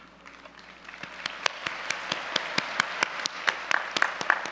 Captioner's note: audience applause